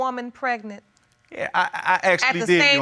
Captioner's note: stammers